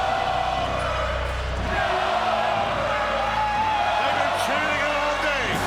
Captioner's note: crowd chanting Goldberg